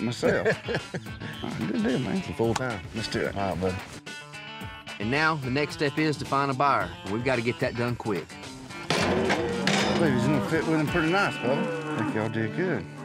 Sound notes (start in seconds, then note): 0.0 both laugh; 9.0 mooing